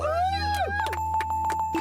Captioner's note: bells ringing